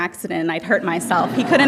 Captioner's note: audience laughing